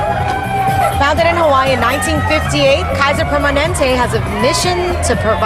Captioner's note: crowd cheering